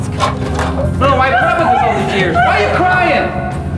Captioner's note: crying